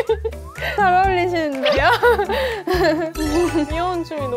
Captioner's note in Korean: 큭큭